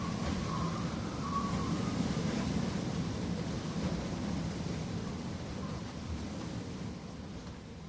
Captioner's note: waves crashing; wind blowing